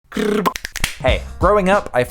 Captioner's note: various snapping and other noises